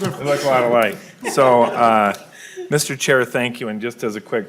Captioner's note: laughing